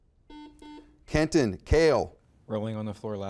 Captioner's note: buzzer beeping